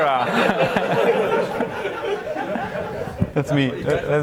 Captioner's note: audience laughs